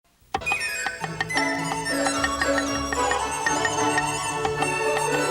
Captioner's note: knife chopping; joyful music